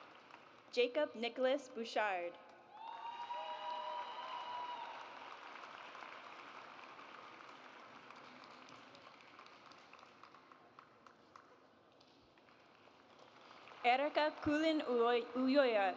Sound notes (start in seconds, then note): 2.7 audience cheers; 12.3 audience applauds